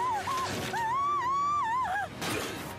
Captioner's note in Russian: крик